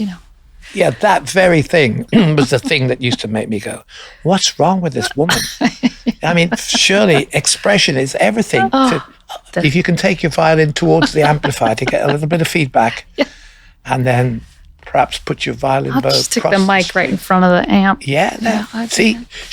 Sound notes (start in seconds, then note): 0.0 grumbling under breath; 5.4 chuckles